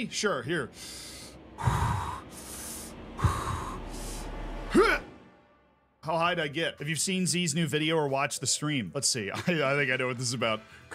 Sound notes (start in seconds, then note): 0.6 heavy breathing; 9.3 laughs